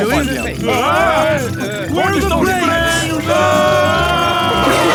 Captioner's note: scream